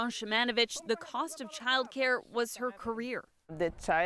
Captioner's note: speaking French